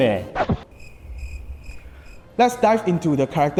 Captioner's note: cricket noises